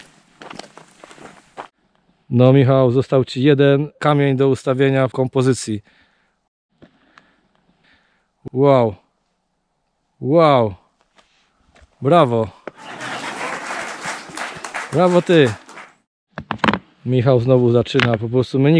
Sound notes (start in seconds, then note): 12.7 applause